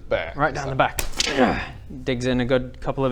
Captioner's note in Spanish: gggragh!